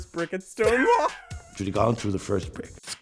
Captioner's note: laughter